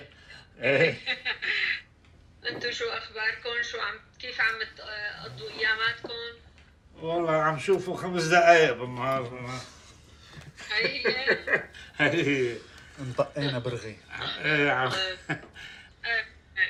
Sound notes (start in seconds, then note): 7.4 father speaking foreign language; 10.8 mama speaking foreign language; 16.4 speaking foreign language